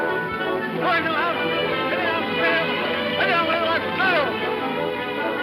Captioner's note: speaking in foreign language